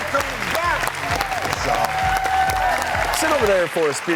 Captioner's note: audience applauds